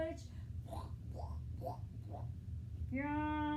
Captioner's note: squishing Sound Effects